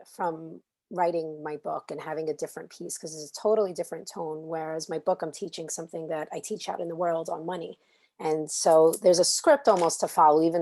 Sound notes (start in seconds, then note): none